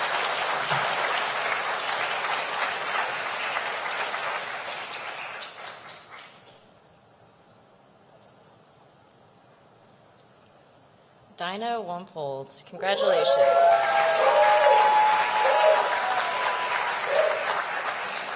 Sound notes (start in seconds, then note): 0.0 applause